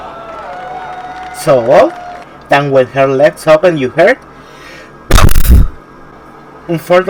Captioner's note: puff